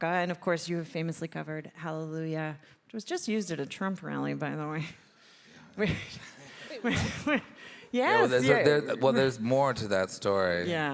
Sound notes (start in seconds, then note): 7.0 chuckles